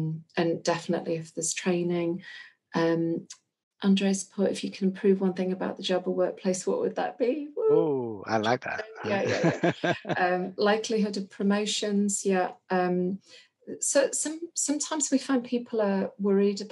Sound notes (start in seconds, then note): 8.0 laughs